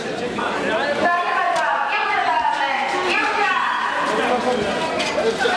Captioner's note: soldier yelling on intercom